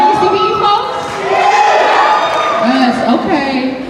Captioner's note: cheering